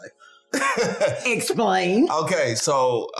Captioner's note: chuckles